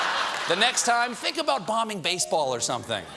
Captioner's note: laughter